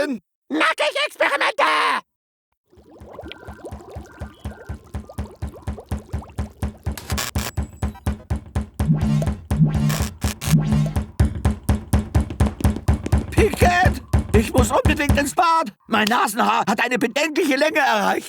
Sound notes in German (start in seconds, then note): 3.0 Klopfen